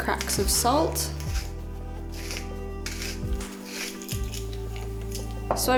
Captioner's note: salt sounds